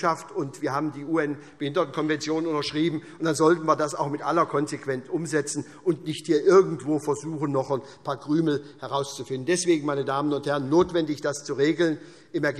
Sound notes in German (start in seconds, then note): none